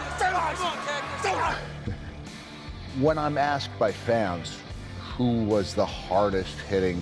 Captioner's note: laugh